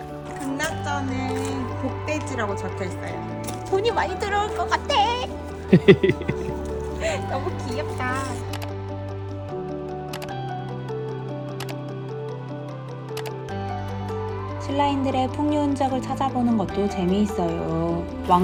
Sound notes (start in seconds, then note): 5.4 haha